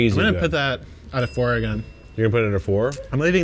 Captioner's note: bell chimes